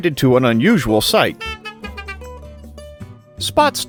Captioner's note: high speed honk honk